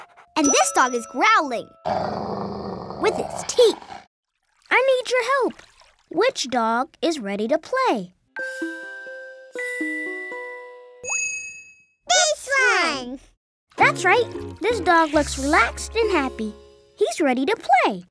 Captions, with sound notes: and this dog is growling. [growling] With its teeth! I need your help. Which dog is ready to play? This one! That's right, this dog looks relaxed and happy. He's ready to play.